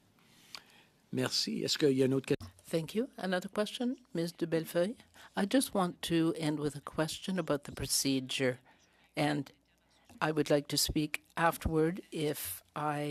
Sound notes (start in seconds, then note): 5.8 speaking French